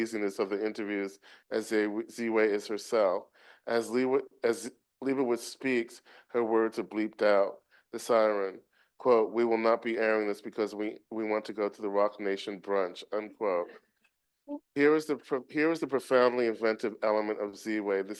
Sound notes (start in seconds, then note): none